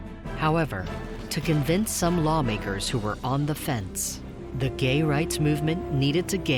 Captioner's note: none